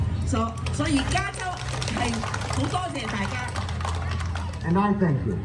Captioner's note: speaking foreign language